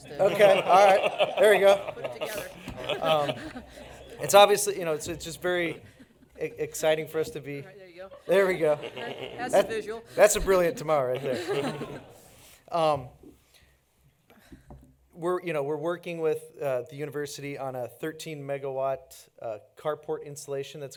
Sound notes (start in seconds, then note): 11.1 laughter